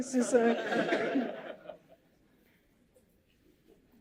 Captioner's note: laughter